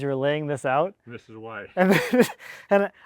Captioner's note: laughs